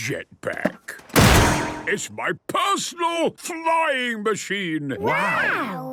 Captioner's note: clangs